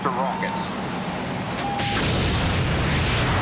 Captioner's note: alarm